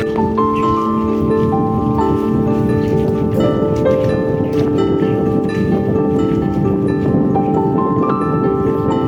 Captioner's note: wind howling inside the tunnel